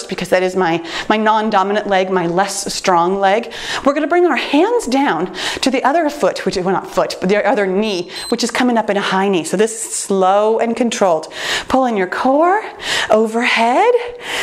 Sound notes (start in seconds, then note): 7.8 timer beeps